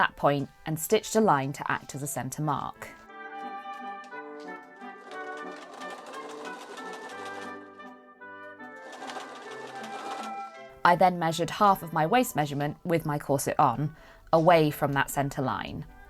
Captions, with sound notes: point and stitched a line to act as a centre mark. [machine whirring] I then measured half of my waist measurement, with my corset on, away from that centre line.